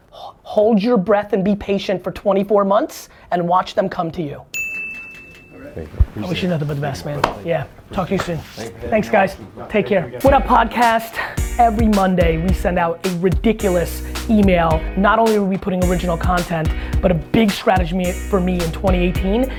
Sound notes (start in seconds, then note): 4.5 bell ding